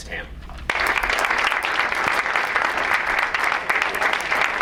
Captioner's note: crowd applauds